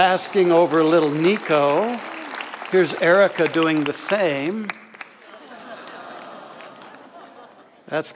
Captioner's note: audience applause; audience adoration sounds